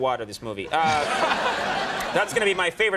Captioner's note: audience laughing